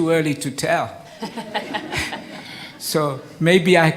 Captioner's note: everyone laughs